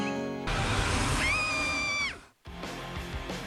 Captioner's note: isabella screams